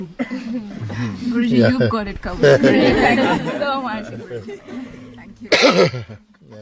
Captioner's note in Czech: smích